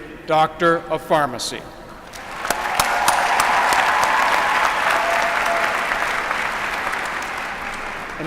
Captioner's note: applause